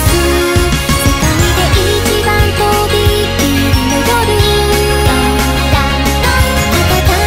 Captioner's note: ding dong dang dong